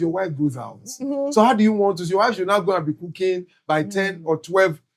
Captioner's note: speaking In Foreign Language